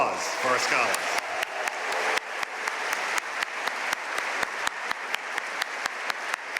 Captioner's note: audience cheering and applauding